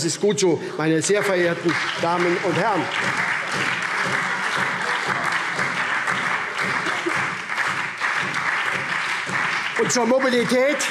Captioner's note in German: Lebhafter Beifall SPD